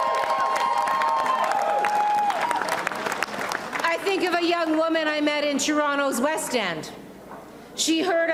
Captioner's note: applause and cheering